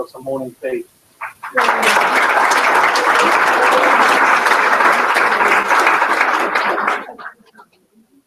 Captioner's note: applause